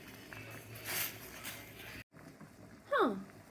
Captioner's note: bubbling water